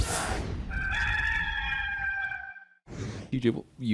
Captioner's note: cock crows